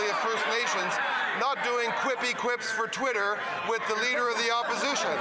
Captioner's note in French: voix de l'interprète